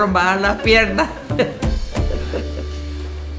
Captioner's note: laughter